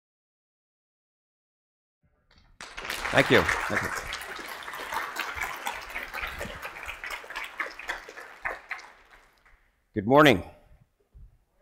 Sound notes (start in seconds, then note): 2.5 audience applauding